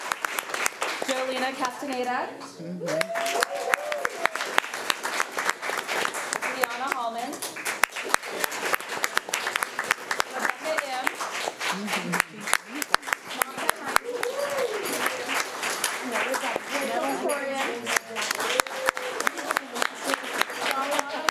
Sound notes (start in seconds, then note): 2.8 audience cheering; 8.2 audience applauding; 11.0 speech drowned out by applause